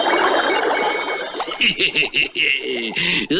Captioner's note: Simon Bar Sinister Laughs